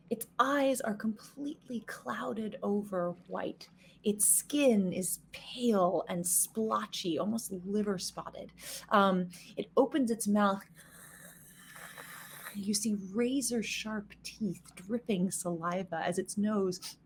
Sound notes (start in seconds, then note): 10.9 mimicking hissing